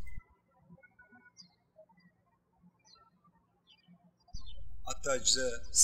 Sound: birds chirping

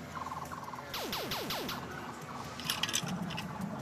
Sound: imitation laser blasts

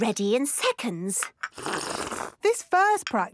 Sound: slurping

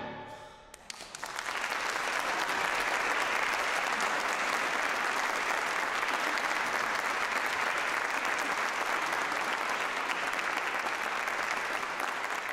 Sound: applause

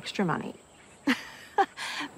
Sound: laughs

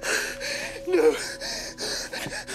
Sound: grunts

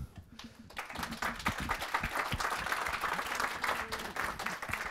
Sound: applause

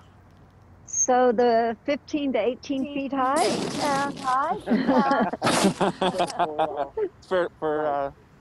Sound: both laugh

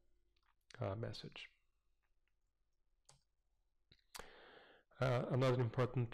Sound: pause

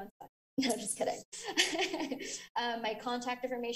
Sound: laughing

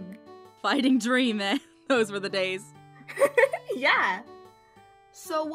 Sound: laughs

